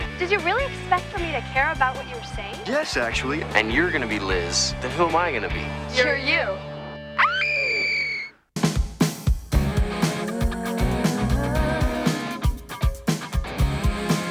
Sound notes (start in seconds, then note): 7.1 screaming; 9.4 vocalizing; 9.5 theme music plays